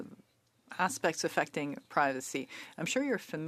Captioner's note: speaking French